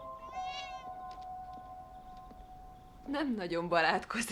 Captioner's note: meows